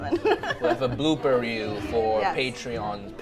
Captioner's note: laughs